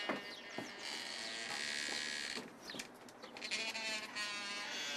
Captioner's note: door creaking